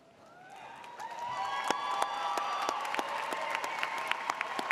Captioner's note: audience cheers